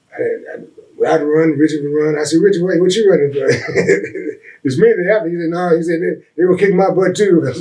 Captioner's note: laughs